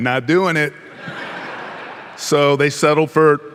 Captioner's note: audience laughing